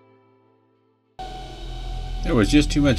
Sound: eerie sound

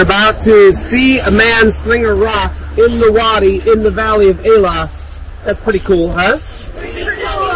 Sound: cheering

